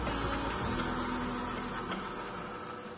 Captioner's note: machine whirrs